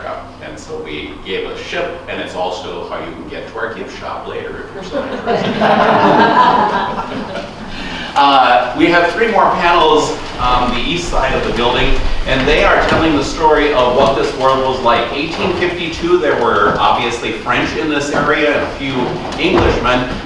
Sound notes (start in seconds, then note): 4.7 laughter